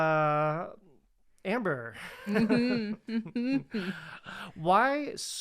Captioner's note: both laughing